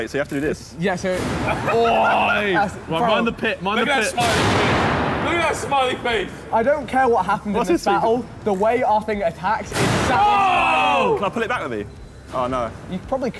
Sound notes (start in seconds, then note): 4.5 metal clanking; 10.0 all cheering